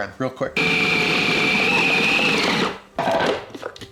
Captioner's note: mixer whirring